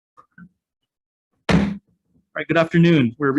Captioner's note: gavel strikes